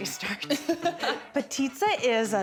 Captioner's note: laughing